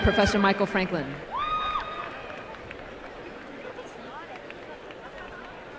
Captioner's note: applause